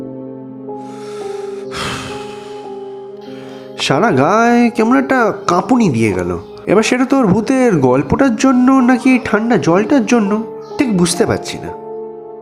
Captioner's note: sighs